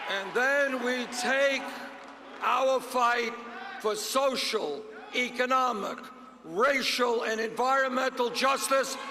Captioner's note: cheers and applause